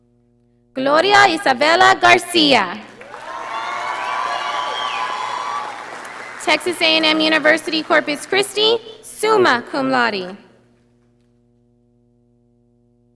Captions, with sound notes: Gloria Isabella Garcia. (audience applauding) Texas A&M University Corpus Christi, summa cum laude.